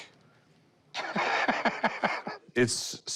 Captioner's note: laughs